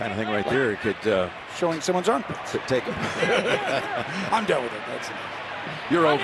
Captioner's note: both laughing